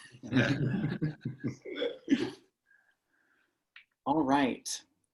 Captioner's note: participants chuckling